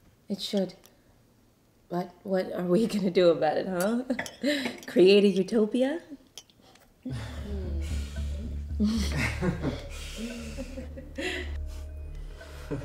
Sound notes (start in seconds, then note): 8.3 nervous laughter